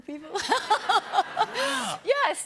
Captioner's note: laughter